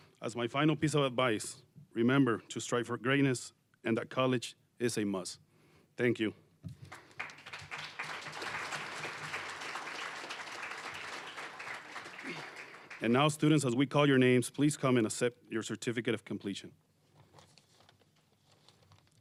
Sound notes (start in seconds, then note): 6.8 applause